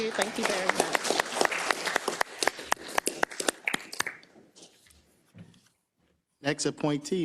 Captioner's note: applause